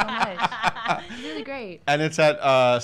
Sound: laughing

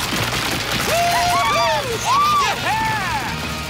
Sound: cheering

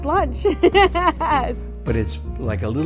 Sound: laughs

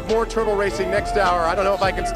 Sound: cheers

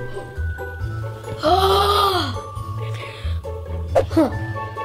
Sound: gasp; sighs in frustration

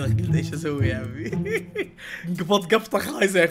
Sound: laughs

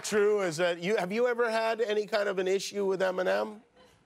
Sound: cheers and applause; laughter

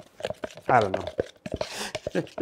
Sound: chuckles

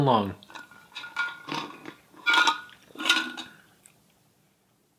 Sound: metal clicks

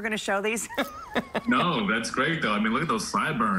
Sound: laughter

